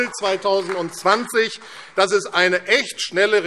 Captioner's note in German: Beifall AfD